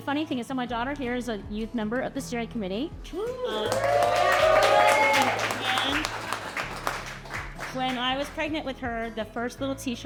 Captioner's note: cheering and applause